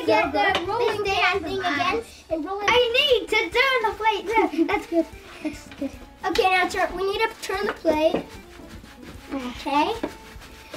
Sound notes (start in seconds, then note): 4.4 laughs